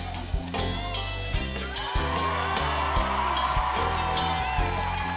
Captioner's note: cheers and applause